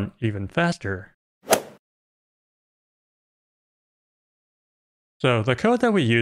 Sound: golf ball hit sound

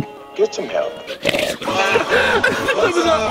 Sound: laughing; snort

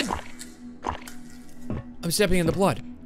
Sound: sloshing

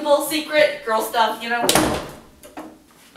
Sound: door slam

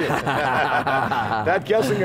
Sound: laughing

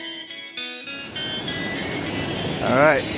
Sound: water flowing

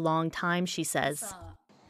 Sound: speaking French

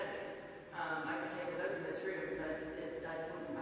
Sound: none

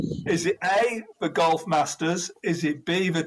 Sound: none

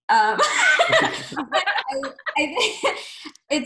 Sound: laughing

